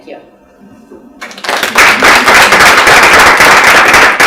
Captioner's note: applause